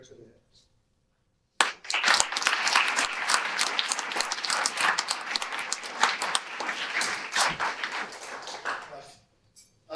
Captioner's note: audience applause